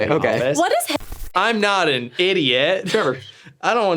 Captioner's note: beep